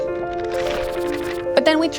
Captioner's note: papers shuffle